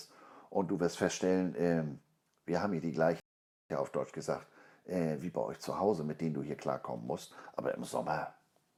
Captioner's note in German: auf deutsch gesagt